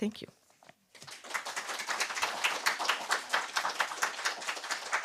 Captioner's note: applause